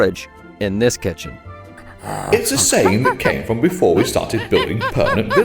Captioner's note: ape noises